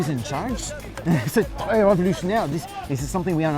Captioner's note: speaks in foreign language